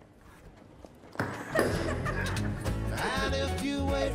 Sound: laughing

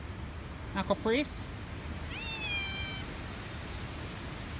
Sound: Caprice meows

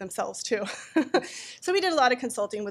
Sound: laughing

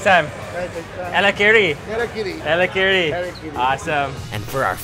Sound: speaking foreign language

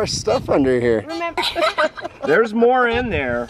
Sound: chuckles

